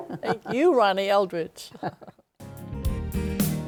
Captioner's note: chuckles